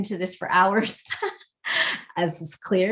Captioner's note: laughs